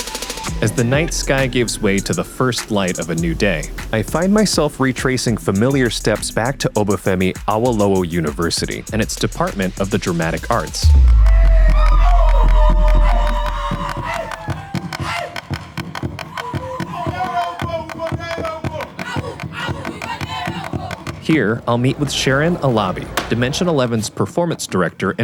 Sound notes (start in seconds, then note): 10.8 people cheering; 11.1 battle cries; 17.1 chanting